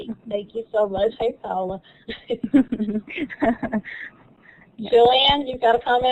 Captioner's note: laughter